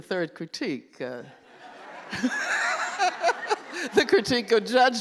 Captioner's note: laughter